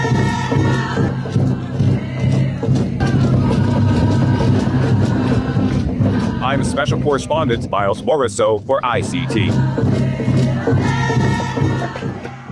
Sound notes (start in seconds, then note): 2.1 drums continue beating; 2.1 supporters continue chanting; 9.0 supporters continue chanting; 10.0 drums continue beating